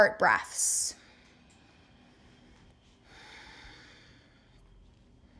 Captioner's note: breathing sounds